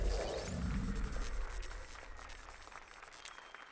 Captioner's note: applause and cheers